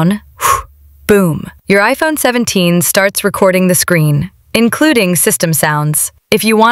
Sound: exhales sharply

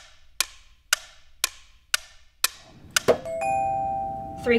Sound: upbeat music; clock ticking

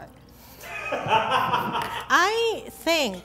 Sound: man laughing

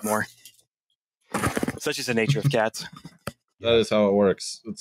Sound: fumbling against microphone

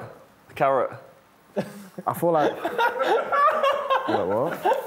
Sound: laughter

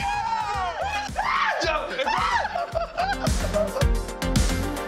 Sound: screaming

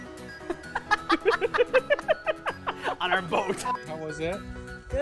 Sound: both laughing

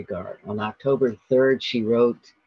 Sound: speaking in German

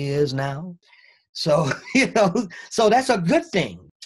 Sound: both laugh

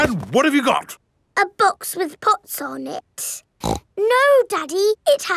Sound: snorts

